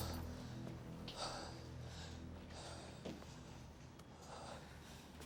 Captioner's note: person panting